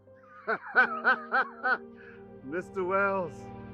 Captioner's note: laughter